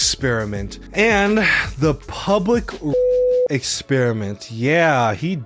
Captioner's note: beep